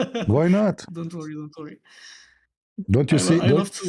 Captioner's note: gasps